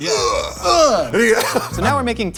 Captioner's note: laughs